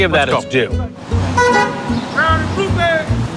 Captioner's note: car beeps; man cheers